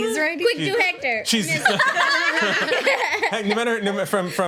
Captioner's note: group laughs; laughs